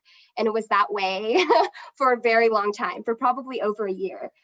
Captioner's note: laughs